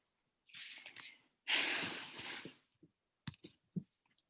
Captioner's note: sighs